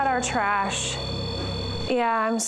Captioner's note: beeping continues